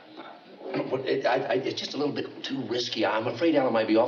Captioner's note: stammers